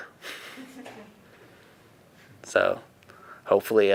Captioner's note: laughing